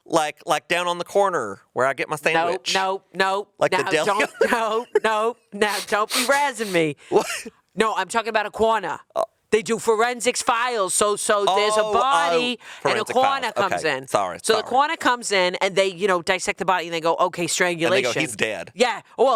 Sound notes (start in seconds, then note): 3.9 chuckling